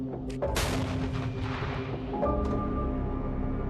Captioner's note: blast booms